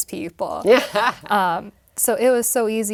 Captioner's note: laugh